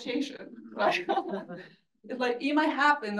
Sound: laughs

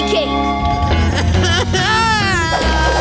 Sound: whining

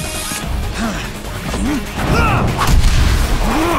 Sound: Hwoarang moans and yells

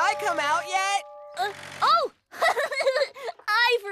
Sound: giggles

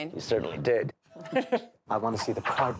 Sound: laughter

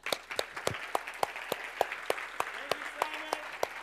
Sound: applause

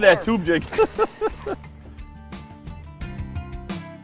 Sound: laughing; upbeat music

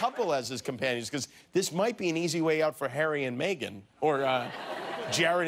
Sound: laughter

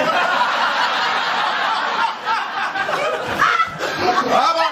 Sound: laughter

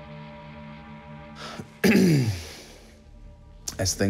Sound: clears throat

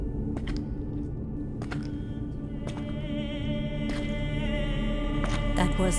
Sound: ominous music; footsteps approach

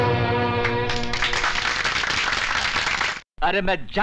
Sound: applauding

